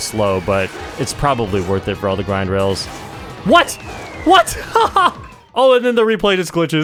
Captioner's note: laughs